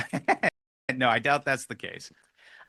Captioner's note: laughter